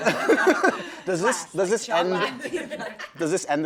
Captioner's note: laughter